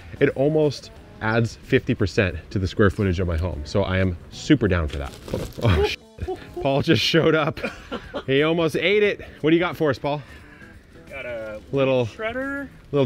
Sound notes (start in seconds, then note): 5.6 chuckles; 5.6 laughs